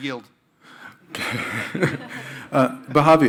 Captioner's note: crowd laughing